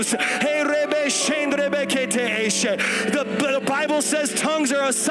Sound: speaking in tongues

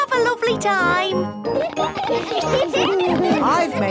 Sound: laughter

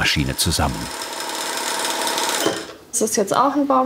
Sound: whirring

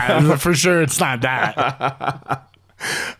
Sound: laughing

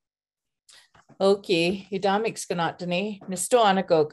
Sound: speaking siksika

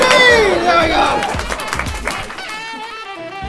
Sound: applause

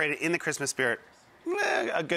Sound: grumbles

